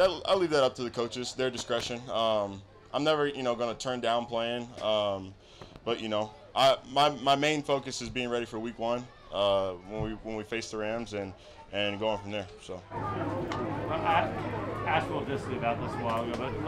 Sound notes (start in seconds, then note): 13.0 crowd chattering